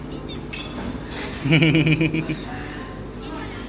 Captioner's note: laughs